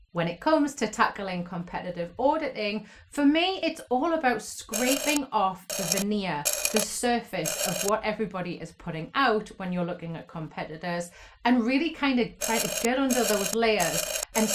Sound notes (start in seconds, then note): 5.6 scraper vibrates